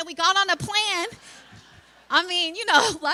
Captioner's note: laughter